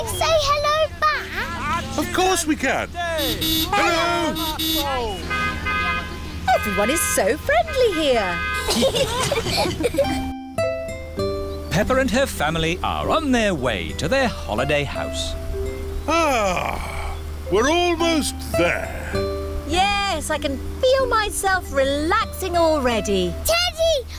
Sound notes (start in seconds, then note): 2.7 honking; 5.8 italians honk back; 8.5 all giggling